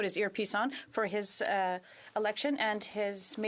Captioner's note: speaking in French